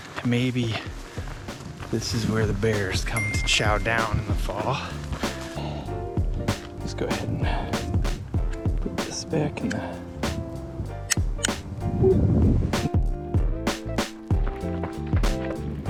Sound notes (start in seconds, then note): 3.1 bell dings; 11.3 clip clicks; 13.1 upbeat music